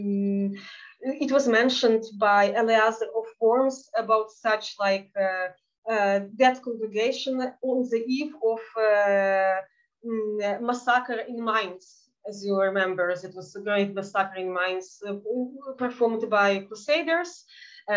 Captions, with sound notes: it was mentioned by Eliaz of forms about such like death congregation on the eve of (speaking in Yiddish) in minds. As you remember, it was a great suffering minds performed by crusaders.